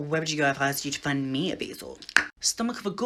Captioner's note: tongue pop